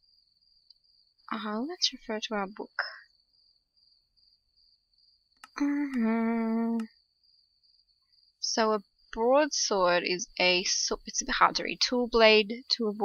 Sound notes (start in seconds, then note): 5.4 hums